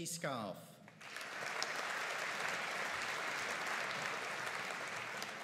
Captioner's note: audience applauding